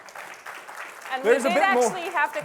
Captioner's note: applause